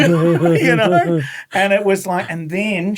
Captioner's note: laughing